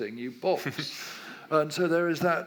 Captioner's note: laughs